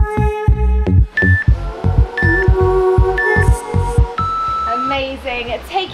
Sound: timer beeping; waves whooshing

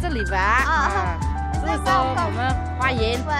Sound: in Mandarin

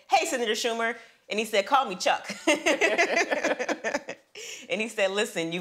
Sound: all laugh

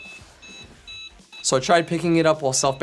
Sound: beeping

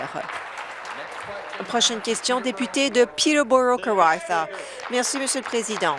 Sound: applause

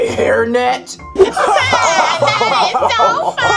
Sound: crowd laughing

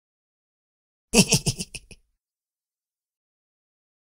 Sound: giggling

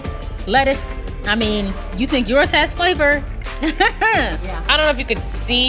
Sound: laughing

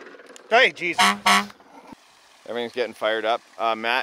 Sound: honking

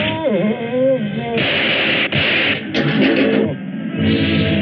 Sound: gunshots

